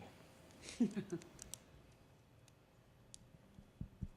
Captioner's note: laughter